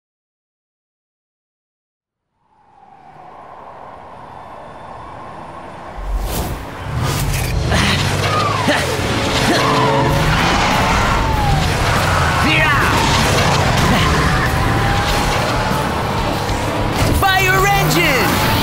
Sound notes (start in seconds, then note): 2.3 wind gusting; 7.6 Ace grunts; 12.4 Ace grunts